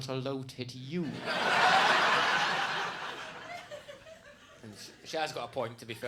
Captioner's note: audience laughs